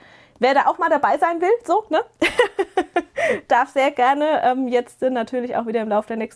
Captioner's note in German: gelächter